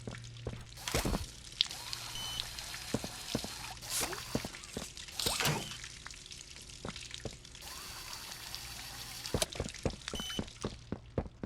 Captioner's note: footsteps